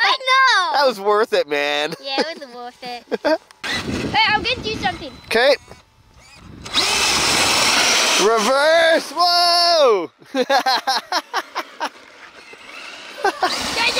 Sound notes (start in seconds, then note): 7.5 engine roars; 10.9 laughing